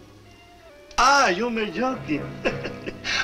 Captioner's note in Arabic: يتحدث الإسبانية; يضحك